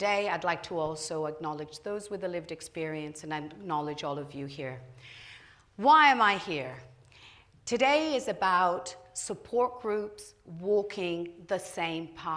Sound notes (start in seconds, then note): none